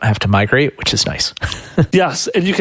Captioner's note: laughs